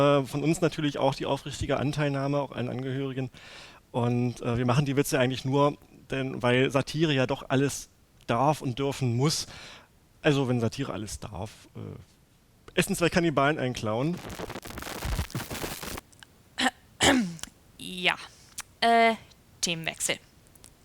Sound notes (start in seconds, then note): 13.7 static; 17.0 awkward cough